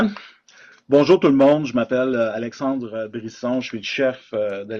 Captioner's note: speaking in French